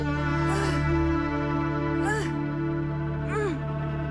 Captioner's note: Maya grunting